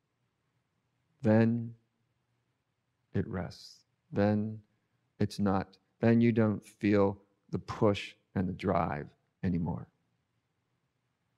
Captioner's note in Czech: stiší se